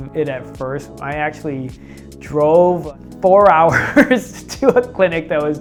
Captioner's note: laughing